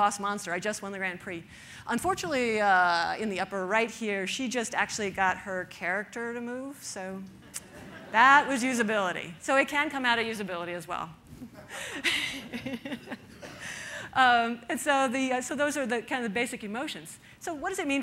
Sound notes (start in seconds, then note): 7.6 audience laughter